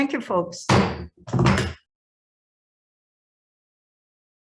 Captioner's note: gavel bangs loudly